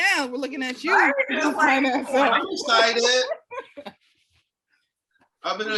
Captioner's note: laughing